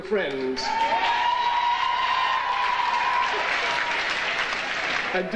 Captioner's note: audience cheering